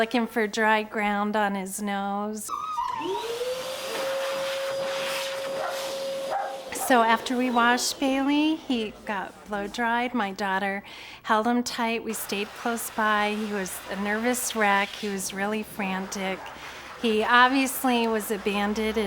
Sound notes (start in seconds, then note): 2.5 dryer blowing; 6.2 dog yipping